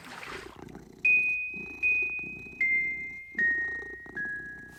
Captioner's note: cat purring